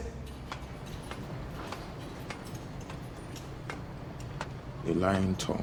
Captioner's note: metal clanking; birds chirping